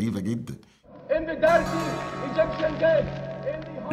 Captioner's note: Ayman al-Zawahiri pleading; background music